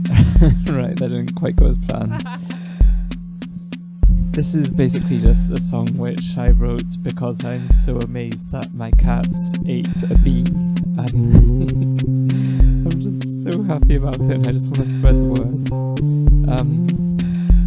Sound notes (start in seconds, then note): 2.0 laughs; 11.0 laughs